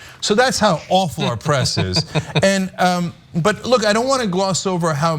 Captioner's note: laugh